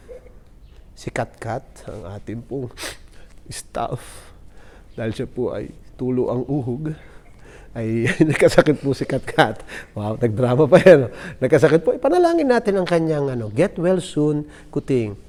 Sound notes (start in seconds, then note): 2.7 sniff; 7.8 chuckles